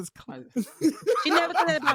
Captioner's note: laughing